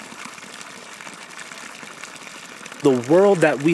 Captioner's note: flowing spring water